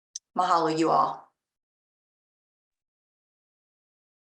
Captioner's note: speaking Hawaiian